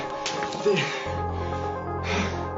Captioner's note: glass shatters